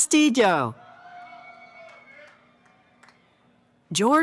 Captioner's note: cheering